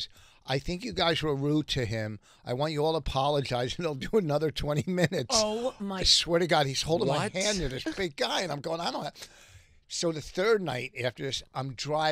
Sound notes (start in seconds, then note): 7.0 laughing